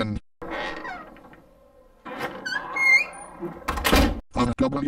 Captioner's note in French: la porte s'ouvre et se ferme